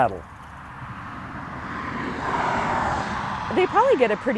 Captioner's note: car swooshing